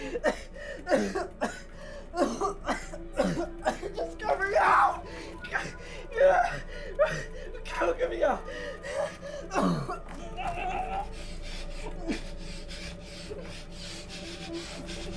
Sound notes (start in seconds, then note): 0.1 Carlos coughing; 8.2 panicked breathing; 9.6 coughs; 10.2 muttering fearfully; 11.4 labored breathing